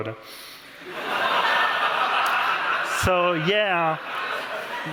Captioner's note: laughter